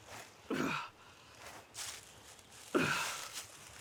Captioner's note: Arawn groaning